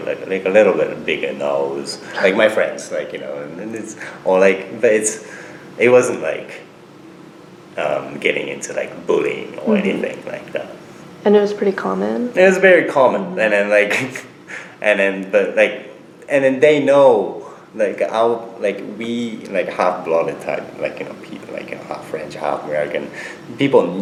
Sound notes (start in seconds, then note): 13.9 snickers